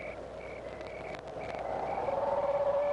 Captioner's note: none